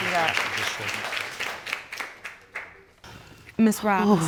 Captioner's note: audience applauds